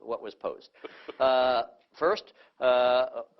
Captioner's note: laughter